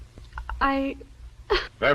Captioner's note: crying